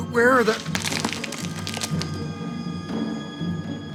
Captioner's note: rustling